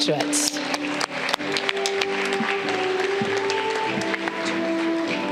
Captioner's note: audience clapping